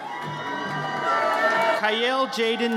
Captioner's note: audience cheers